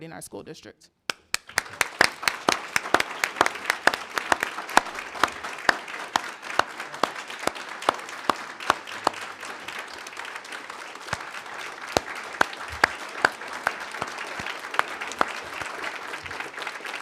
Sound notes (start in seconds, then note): 3.1 applause